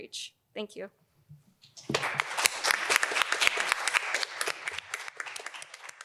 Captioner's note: applause